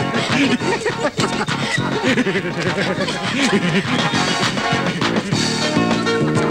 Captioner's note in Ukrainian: сміх